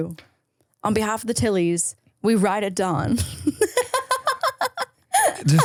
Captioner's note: laughs